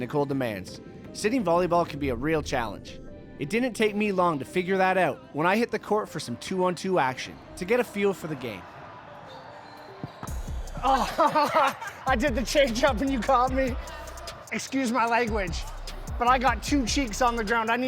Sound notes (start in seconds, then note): 10.7 laughing